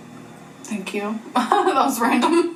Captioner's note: laughs